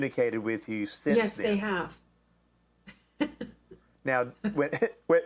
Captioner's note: laughs